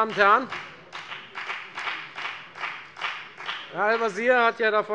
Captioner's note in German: Beifall bei der FDP